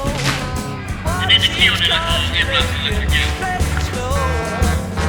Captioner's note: intercom blaring